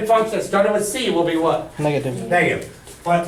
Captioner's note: voiceover